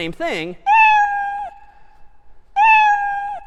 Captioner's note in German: meowing